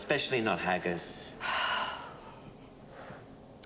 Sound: sighs

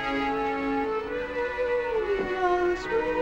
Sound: humming

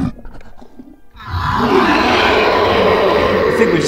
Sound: wyllie roars

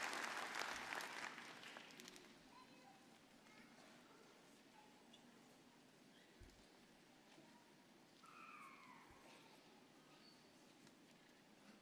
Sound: applause

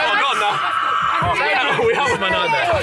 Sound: student screaming

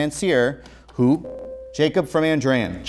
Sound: beeping

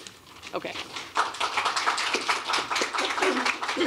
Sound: applause

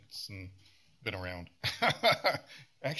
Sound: laughs

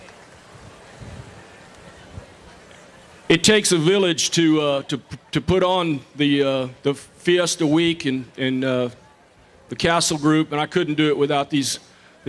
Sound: applause

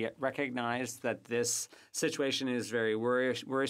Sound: speaking French

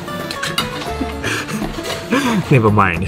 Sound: chuckles

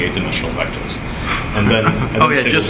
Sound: laughs

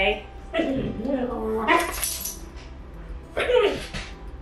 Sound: Benji whimpering; Benji barking

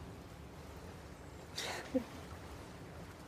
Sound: chuckles softly

